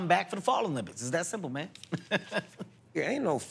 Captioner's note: chuckles